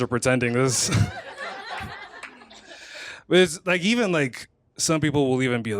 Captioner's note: laughter